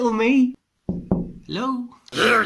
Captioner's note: knocks